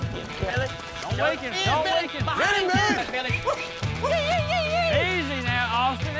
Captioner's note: men shouting